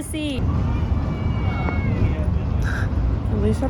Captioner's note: children crying